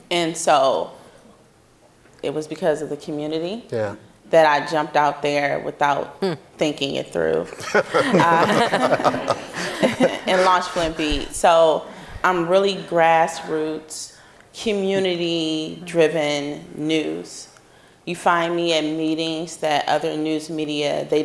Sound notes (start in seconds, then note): 7.5 audience laughing